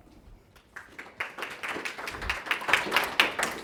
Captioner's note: audience applauds